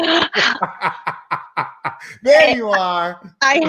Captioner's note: laughing loudly